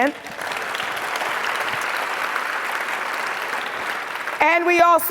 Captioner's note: audience applauds